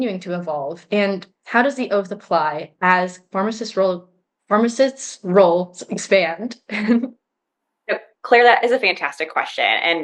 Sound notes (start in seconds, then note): 6.7 chuckles